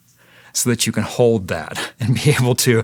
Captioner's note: laughing